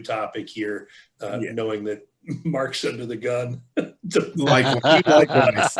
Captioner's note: laughing